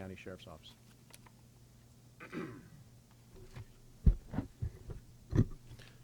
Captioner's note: clears throat